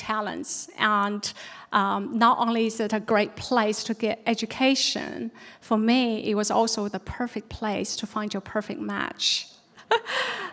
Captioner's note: laughs